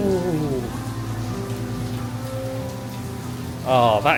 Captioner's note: rain patters